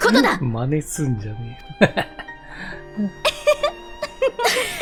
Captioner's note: laughter